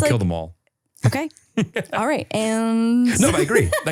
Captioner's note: laughs